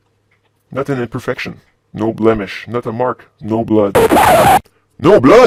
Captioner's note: record scratch